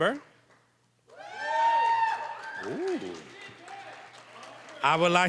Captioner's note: cheering, applause